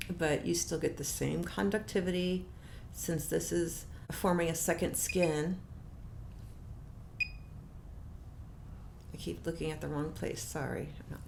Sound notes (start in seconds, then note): 5.6 beeping sound